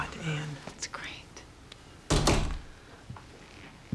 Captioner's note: door opens, closes